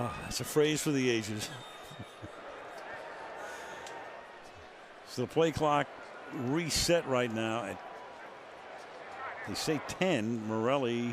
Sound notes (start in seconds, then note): 2.8 laughs